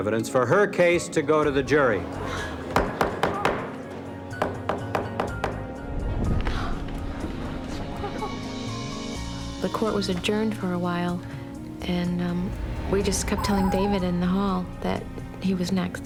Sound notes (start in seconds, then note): 2.7 gavel banging